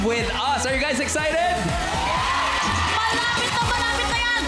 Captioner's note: cheering